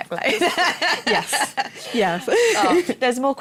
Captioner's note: laughter